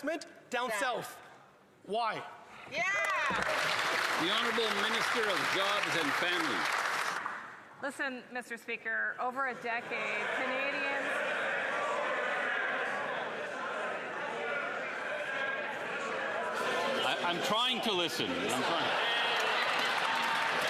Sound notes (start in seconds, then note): 7.7 applause